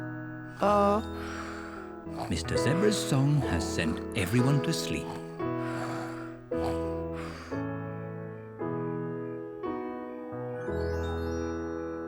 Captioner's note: all snore